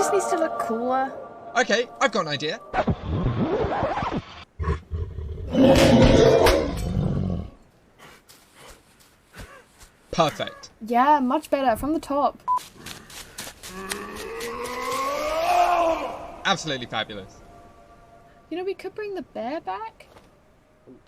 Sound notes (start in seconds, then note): 2.7 record scratch; 4.6 bear snarling; 13.7 man roaring